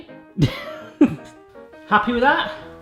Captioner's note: laughs